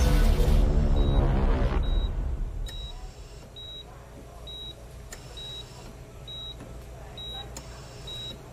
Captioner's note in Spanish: Sonido de telemetría